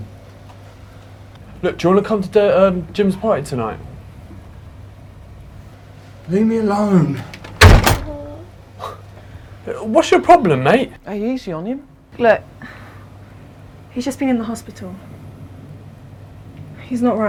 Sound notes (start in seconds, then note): 7.4 Dave slams door shut